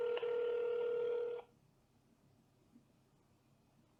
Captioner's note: phone ringing